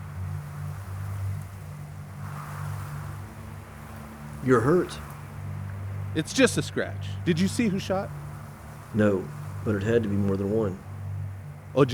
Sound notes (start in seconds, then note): 0.6 wind whistling